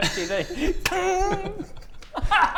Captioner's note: ching!